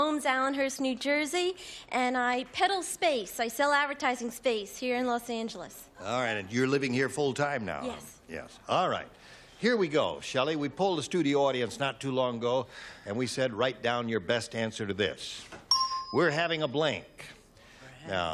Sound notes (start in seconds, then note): none